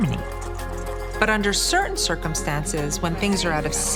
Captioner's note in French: audio déformé